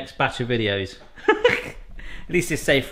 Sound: laughing

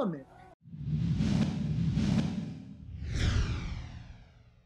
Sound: air whooshing

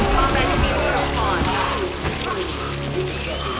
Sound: computer voice; PA announcement

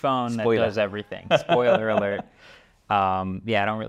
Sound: laughs

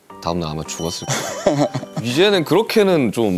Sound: haha

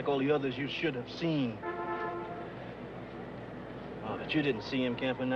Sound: bus horn blaring

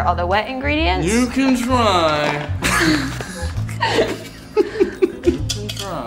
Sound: laughing

